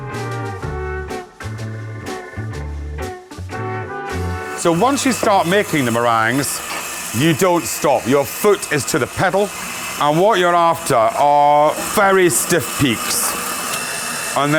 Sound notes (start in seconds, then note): 0.0 upbeat music; 9.3 mixer whirring